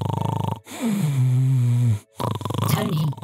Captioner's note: snoring